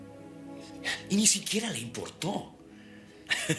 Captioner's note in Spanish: risos